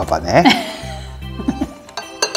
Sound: laughs

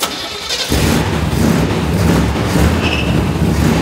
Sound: car engine roaring

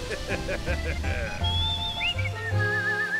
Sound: chuckling; whistling continues

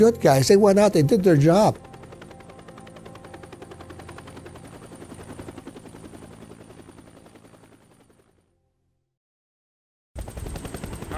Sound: sounds of Helicopter; radio communications

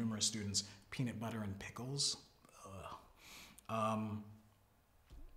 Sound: groans

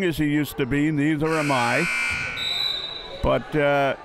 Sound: buzzer sounding

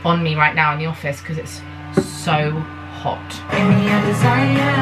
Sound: fan whirring

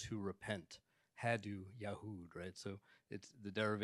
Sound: speaks in Arabic

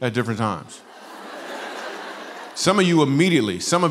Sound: laughter

